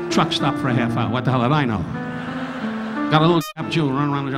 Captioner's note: audience laughing